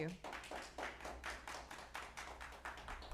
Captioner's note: clapping